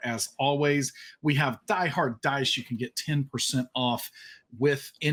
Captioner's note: none